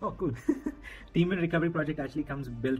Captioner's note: laughter